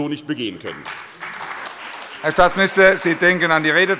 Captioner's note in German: Beifall bei der CDU und dem BÜNDNIS 90/DIE GRÜNEN